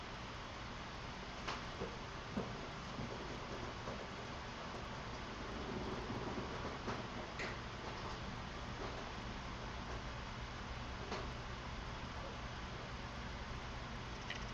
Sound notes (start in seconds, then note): 8.1 footsteps creaking